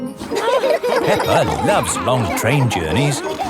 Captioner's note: laughing